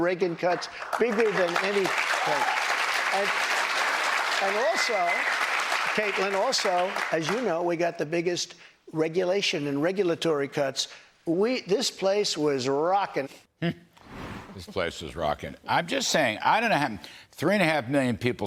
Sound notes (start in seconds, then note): 7.8 applause